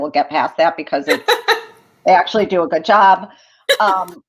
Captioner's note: laughter